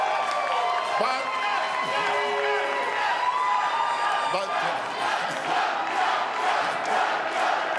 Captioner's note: cheering